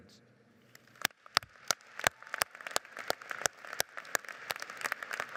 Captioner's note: audience applauds